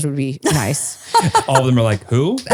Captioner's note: laughs